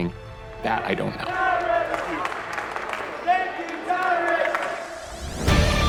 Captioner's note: chanting